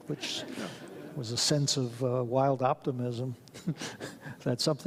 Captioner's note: audience laughs; laughs